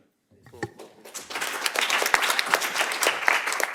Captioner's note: applause